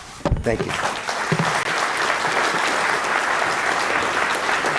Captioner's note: audience applauding